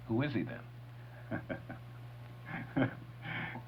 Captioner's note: laughs